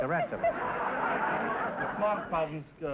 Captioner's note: audience laughter